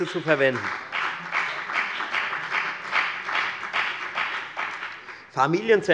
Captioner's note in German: Beifall bei der FDP